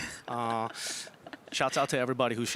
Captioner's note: is laughing